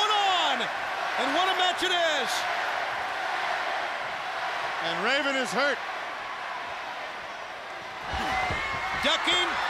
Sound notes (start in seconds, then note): 4.6 crowd cheering